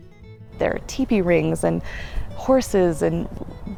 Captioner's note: voiceover